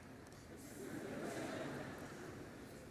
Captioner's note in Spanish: Risas